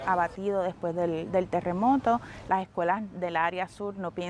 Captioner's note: speaking Spanish